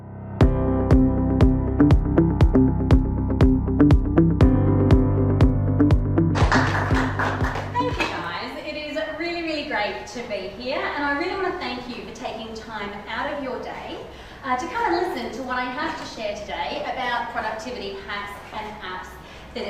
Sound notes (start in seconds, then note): 0.4 upbeat music; 6.3 applause